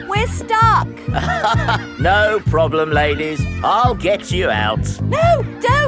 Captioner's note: chuckles